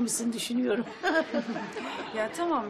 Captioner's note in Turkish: Gülme sesi